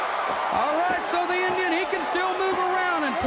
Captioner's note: crowd cheering